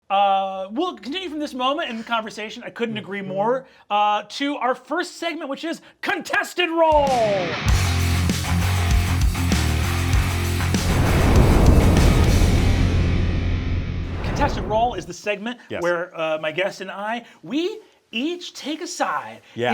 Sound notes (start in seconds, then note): 7.0 rock music; 10.5 fire booming; 14.3 fire whooshing